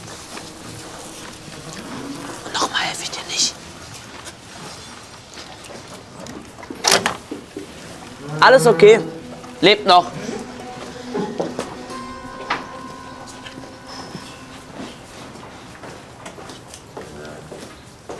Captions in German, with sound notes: (Flüstert:) Noch mal helfe ich dir nicht! Alles okay, lebt noch.